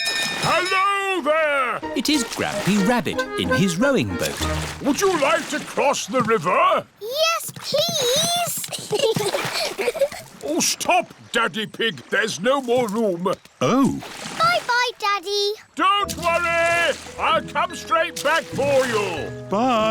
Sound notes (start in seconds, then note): 8.4 giggles